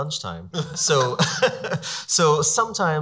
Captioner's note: laughs